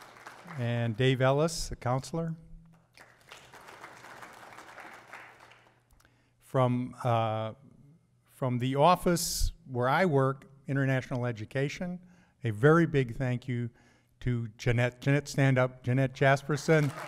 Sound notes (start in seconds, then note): 0.0 applause; 2.8 applause; 15.6 applause